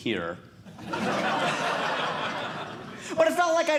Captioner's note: audience Laughing